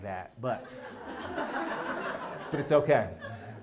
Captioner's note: laugh